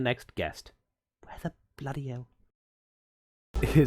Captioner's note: muttering to himself